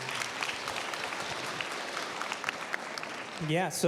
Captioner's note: applause